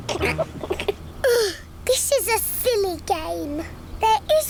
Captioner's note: groans; laughs